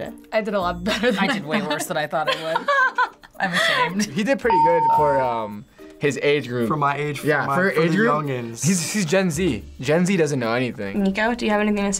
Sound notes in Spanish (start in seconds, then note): 2.1 risas